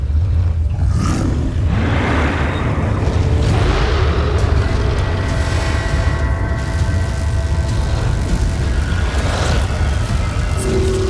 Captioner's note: music swells; intense music playing; screeching roar